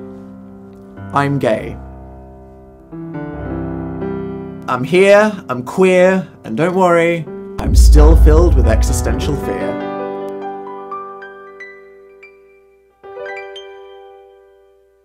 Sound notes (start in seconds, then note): 7.6 sound of a distant explosion